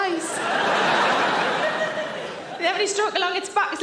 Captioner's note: audience laughing